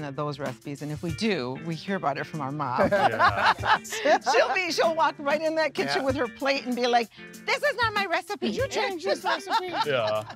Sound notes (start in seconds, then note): 2.7 laughing